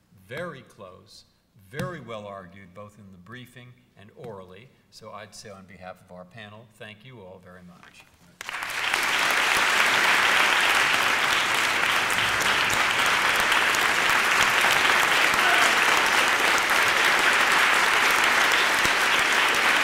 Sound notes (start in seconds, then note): 8.5 applause